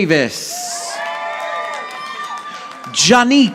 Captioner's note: audience applauding